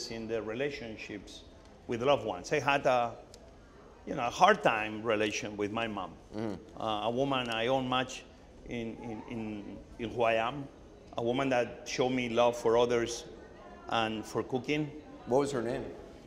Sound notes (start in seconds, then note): none